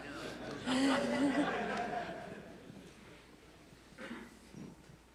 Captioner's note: laughter